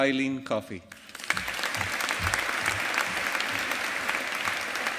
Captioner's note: audience applauding